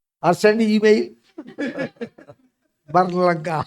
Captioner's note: laughs